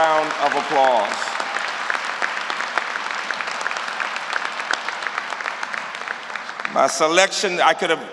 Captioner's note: applause